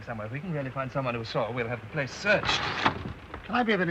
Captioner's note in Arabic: صوت الباب ينفتح